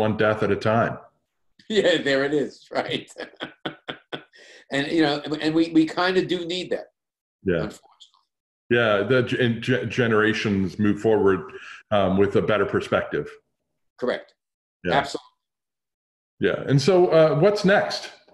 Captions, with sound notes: one death at a time. -There it is. Right. [laughs] We do need that, unfortunately. -Generations move forward with a better perspective. -Correct. Absolutely. -What's next?